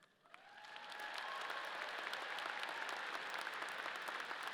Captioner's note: audience applauding